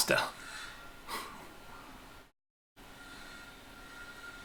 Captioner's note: chuckling